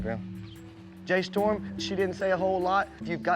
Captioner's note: none